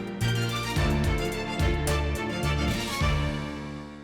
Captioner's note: echoes